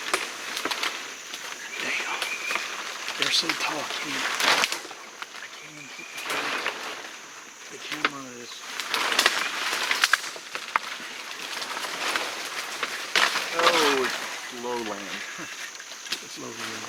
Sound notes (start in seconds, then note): 9.7 crunching drowns out speaker; 15.0 chuckles